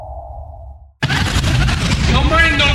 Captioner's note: distorted noises